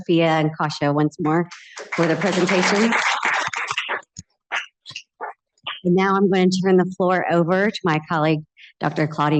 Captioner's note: applause